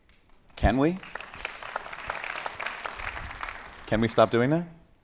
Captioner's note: attendees applauding